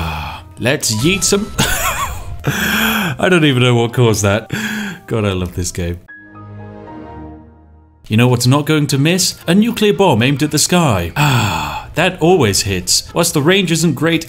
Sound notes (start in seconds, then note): 0.0 satisfied Sigh; 1.0 confused Laughter; 5.9 Windows XP startup sound